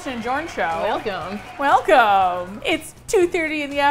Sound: cheering

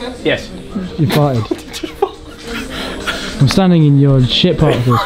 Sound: laughs

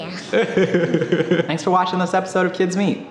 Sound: laughing

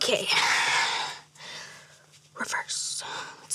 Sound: sighs

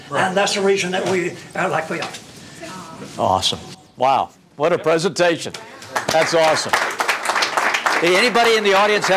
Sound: clapping

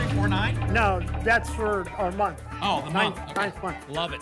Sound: none

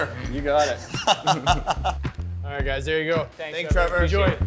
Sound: laughter

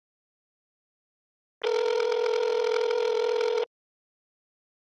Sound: dial tone ringing

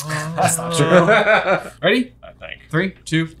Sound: laughing

